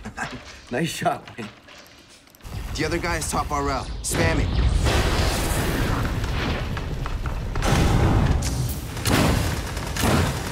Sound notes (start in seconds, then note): 6.9 character crashing; 9.0 guns firing